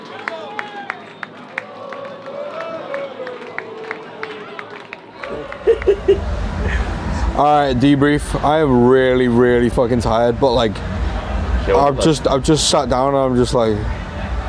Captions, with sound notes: (crowd chanting) (laughing) - All right debrief. I am really, really fuckin' tired. But I've just sat down and I'm just like...